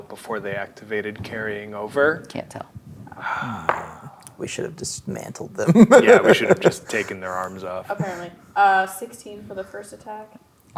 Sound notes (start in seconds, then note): 3.1 sighs; 5.1 laughing